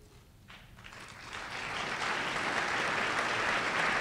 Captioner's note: applause